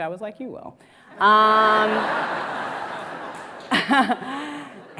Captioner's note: audience laughs